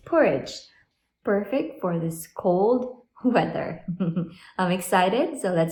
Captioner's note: chuckles